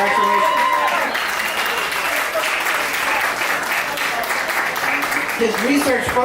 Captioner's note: applause